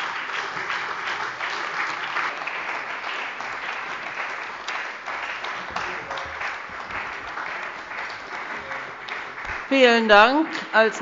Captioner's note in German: Beifall bei der CDU, der SPD, dem BÜNDNIS 90/DIE GRÜNEN und der LINKEN